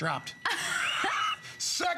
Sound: laughter

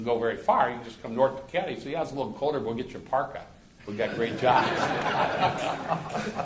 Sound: laughter

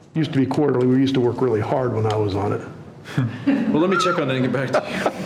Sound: laughter

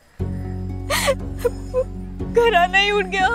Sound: weeping

